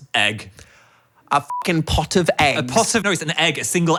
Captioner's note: beep